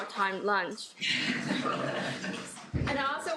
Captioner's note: laughter